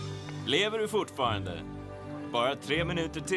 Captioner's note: on walkie-talkie